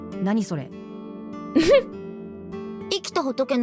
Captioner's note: chuckles